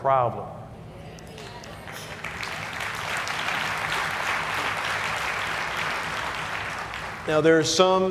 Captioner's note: applause